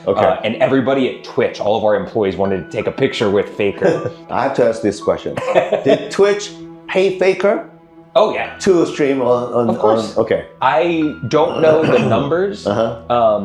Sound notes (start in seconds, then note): 5.2 laughs